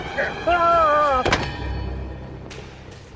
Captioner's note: Johnny yelping; ominous music